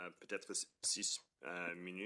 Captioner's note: speaking French